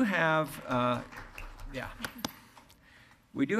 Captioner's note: applauding